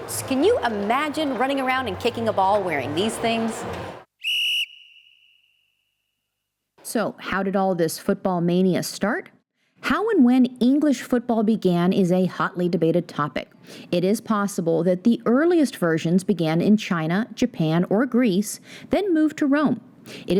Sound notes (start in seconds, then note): 4.2 whistle blows